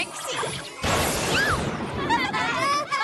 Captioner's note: thunder crashes; laughter